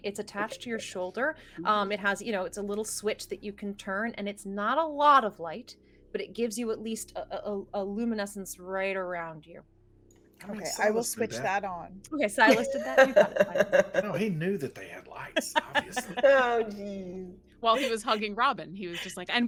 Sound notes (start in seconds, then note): 12.4 laughs; 15.1 everyone laughs